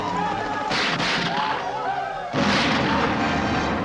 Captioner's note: gunshots